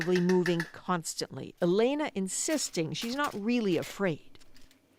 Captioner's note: speaking alternate language